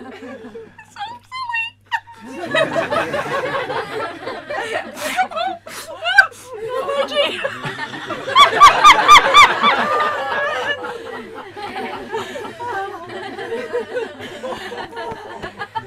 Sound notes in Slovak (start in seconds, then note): 1.8 Smiech; 6.6 Dotazujúcej sa nekontrolovateľný smiech